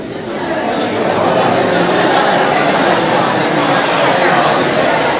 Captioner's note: audience chattering